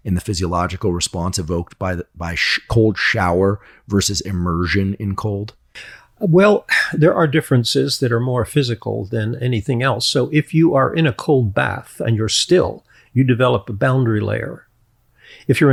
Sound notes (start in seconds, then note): none